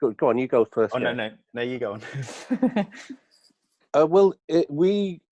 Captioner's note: laughs